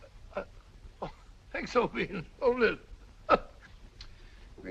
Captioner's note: chuckles